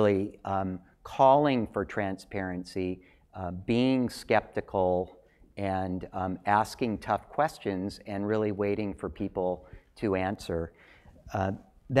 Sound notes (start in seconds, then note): none